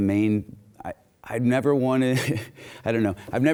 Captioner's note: chuckles